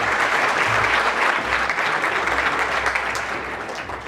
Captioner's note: audience clapping